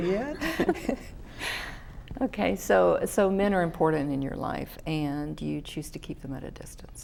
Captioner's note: laughter